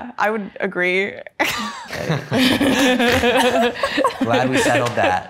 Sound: Rae and Mia laughs

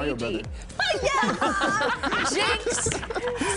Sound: laughter

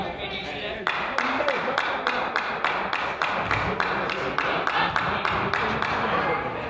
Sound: player claps; coach yells

